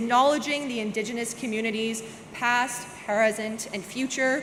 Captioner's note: none